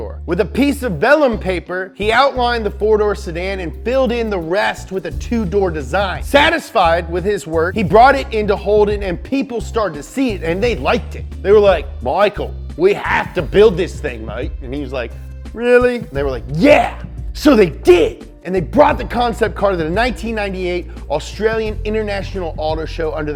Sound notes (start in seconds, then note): 11.8 Australian accent